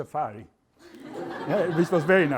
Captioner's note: laughter